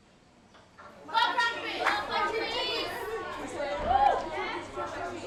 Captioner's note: mixed chattering